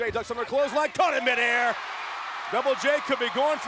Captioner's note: crowd cheering